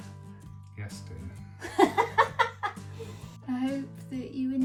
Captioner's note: laughs